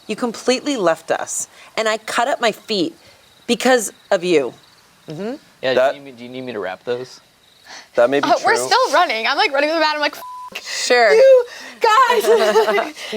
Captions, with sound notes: You completely left us. And I cut up my feet because of you. - Do you need me to wrap those? - That may be true. - We're still running. I'm like running with a bat. I'm like, "(beep) you guys."